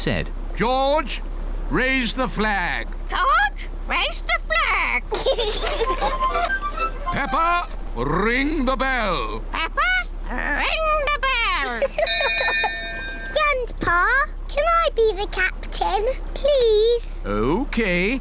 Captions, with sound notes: George? Raise the flag. -George? Raise the flag. -(CHILDREN GIGGLE) Peppa? Ring the bell. Peppa? Ring the bell. -(LAUGHS) -(RINGS BELL) Grandpa, can I be the captain? -Please? -Okay.